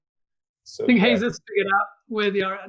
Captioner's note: murmurs